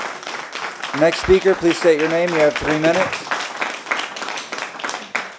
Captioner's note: applause